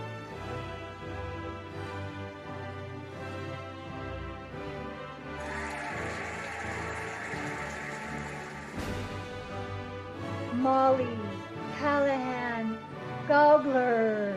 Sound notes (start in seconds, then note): 5.2 cheering and applauding